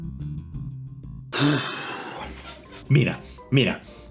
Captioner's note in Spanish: resoplido extremo